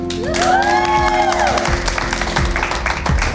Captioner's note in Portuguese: Aplausos